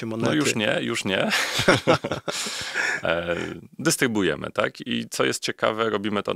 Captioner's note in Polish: śmiech